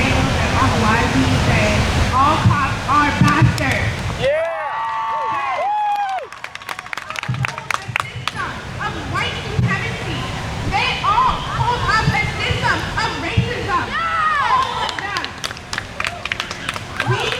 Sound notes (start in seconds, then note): 4.3 crowd cheers; 13.9 crowd; 15.6 crowd cheers